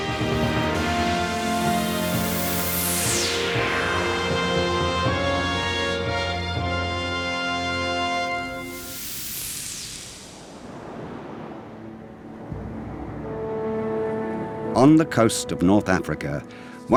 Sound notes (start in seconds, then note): 0.0 triumphant music; 9.0 static buzzing; 11.8 waves crashing